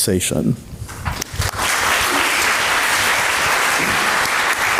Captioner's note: applause